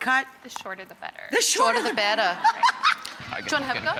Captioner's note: laughs